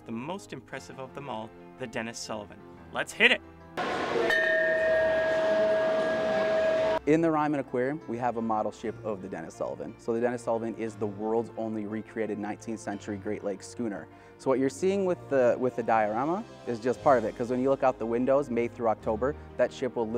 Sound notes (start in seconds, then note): 3.8 bell ringing